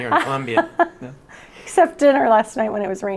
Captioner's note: chuckles